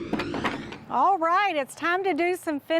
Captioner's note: whirlwind sound